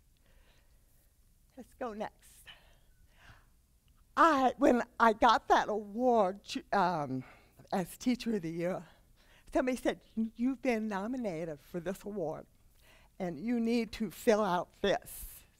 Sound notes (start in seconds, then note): none